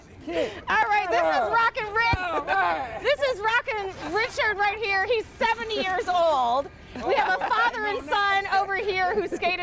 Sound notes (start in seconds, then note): 3.6 laughter